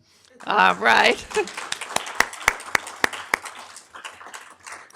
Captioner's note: audience applauding